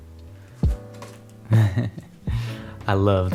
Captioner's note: chuckle